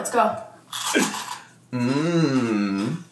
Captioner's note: fruit crunching